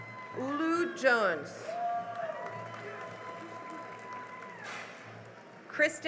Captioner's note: cheering and applause